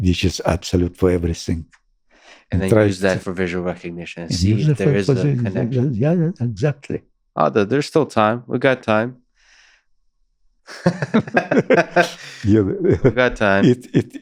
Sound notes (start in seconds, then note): 10.7 laughing